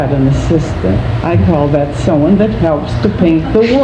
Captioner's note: laughing